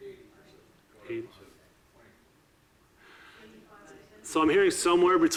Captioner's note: audiences murmuring